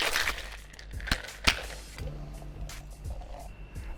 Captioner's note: thuds